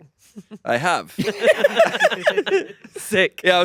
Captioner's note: everyone laughing